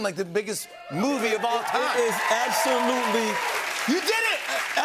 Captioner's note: cheering and applause